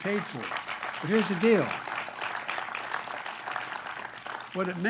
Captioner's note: applause